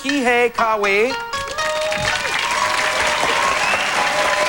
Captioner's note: cheers and applause